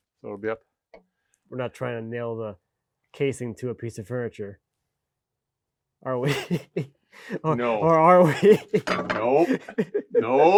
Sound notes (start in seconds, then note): 6.2 speaker laughing